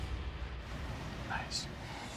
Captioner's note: whispers